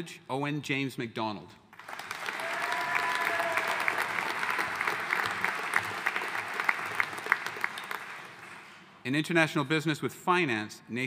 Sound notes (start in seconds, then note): 1.8 audience cheering and applauding